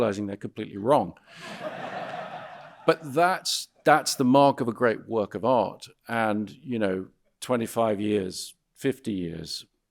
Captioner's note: audience laughing